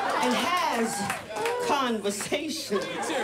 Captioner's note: audience cheers and applauds